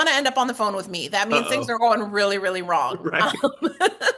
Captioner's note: laugh